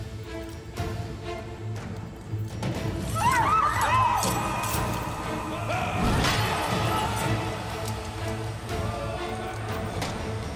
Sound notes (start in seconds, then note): 3.1 Çığlık sesleri